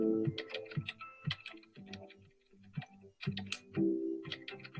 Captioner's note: keyboard clanking